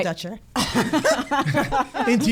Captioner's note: laugh; laughs